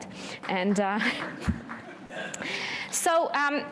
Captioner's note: applause